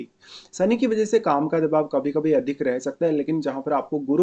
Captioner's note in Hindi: नाक से की जाने वाली आवाज़